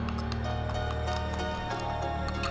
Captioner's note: clattering